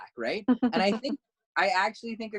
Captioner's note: laugh